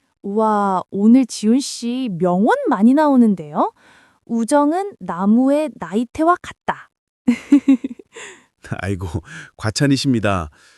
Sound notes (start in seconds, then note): 7.3 laughs